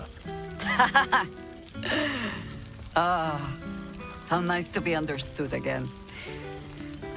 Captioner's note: laughing